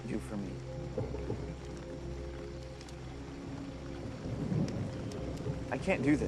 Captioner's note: weighty music; thunder rumbling